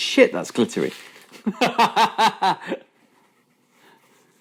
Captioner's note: laughing